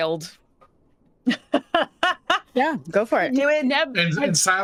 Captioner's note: laughing